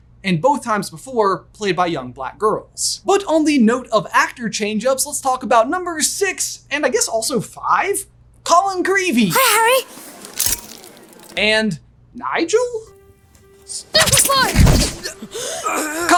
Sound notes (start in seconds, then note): 9.8 shutter flashes; 15.0 Harry and Nigel groaning